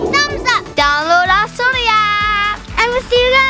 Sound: foreign language

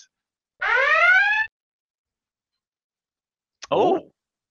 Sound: siren blaring

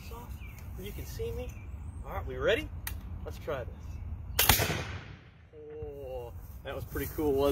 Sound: gun fires

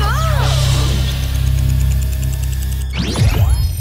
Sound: clock ticking faster; clock ticking; all gasp

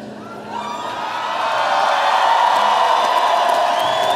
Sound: audience cheering

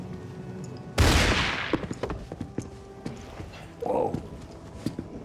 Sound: gunshot

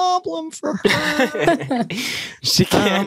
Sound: laughter

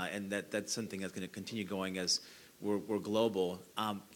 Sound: none

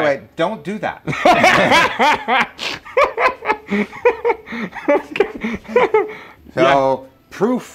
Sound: laughing

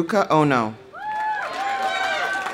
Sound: audience cheering; audience applauding

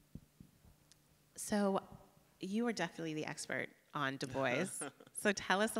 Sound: laughs

